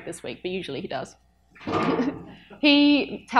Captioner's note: chuckles